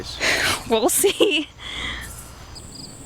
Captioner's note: laughs